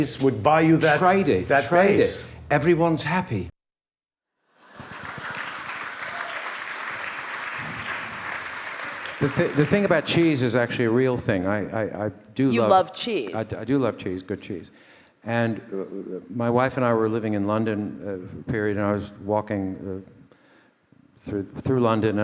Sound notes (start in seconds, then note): 4.7 audience laughing; 7.7 audience applauding